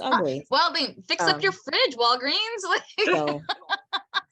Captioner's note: laughing